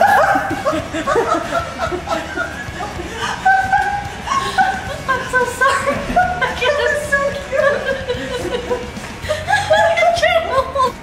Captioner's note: more laughing